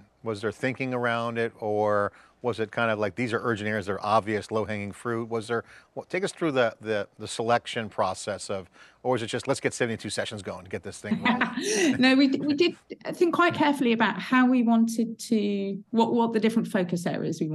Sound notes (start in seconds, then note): 11.1 laughs